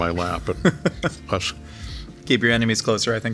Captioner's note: laughing